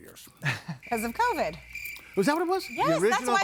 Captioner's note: crickets chirping